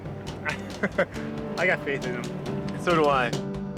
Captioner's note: chuckle